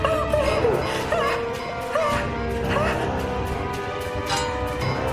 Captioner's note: Helen gasping; sinister music